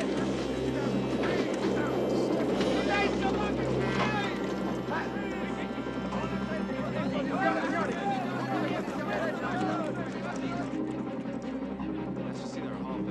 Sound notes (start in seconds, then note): 7.2 men chattering in russian